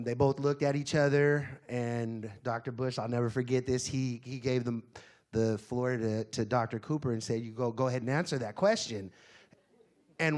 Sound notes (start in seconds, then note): none